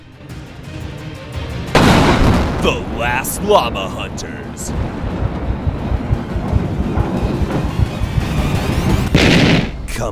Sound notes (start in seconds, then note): 1.7 gunshot; 5.1 heart-pounding music; 9.1 explosion